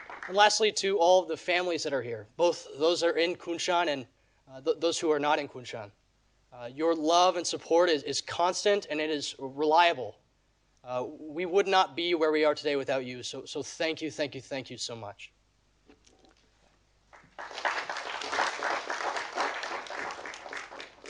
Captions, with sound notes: And lastly to all of the families that are here, both those are in Kunshan and those who are not in Kunshan, your love and support is constant and it is reliable. We would not be where we are today without you so thank you, thank you, thank you so much. (audience applauding)